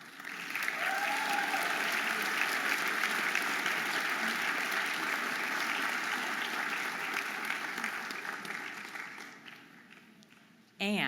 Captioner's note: audience applauding and cheering